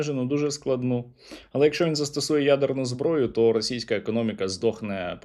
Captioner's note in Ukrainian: сопіння